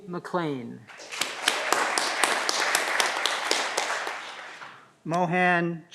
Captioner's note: audience clapping